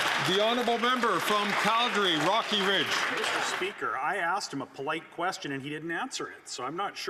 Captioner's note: some Applause